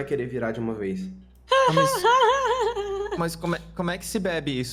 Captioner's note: laughs